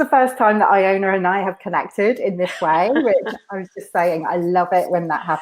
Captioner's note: laughs